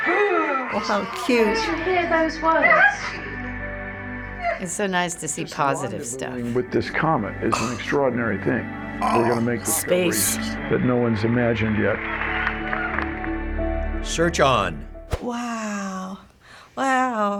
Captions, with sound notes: Oh, how cute! It's so nice to see positive stuff. (voice-over) ...this comet is an extraordinary thing. Space. (voice-over)...that no one's imagined yet. (applause) Search on. Wow, wow!